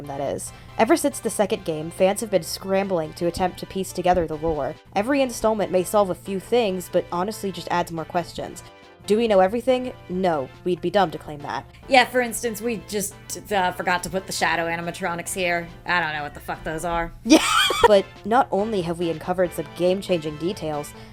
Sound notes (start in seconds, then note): 17.2 laughs